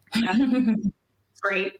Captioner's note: laughing